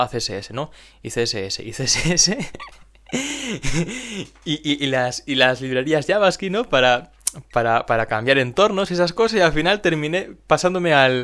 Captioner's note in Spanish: se ríe